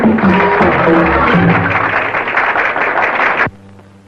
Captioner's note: audience applauding